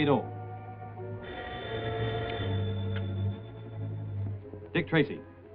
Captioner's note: phone ringing